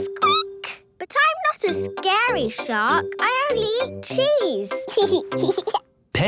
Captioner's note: squeaking; giggling